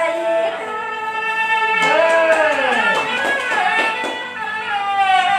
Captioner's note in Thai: ปรบมือ